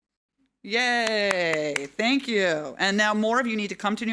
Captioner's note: claps